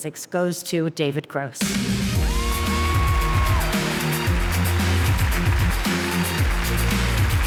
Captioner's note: upbeat music; audience applauding